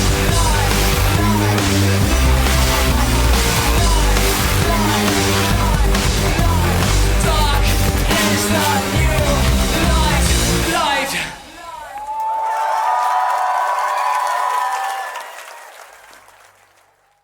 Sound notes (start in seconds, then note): 12.5 audience cheers